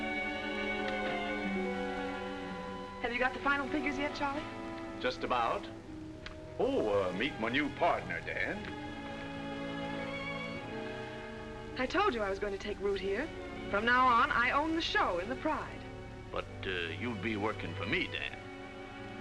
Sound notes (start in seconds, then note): 0.8 door closes